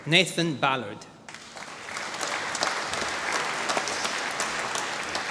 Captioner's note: applause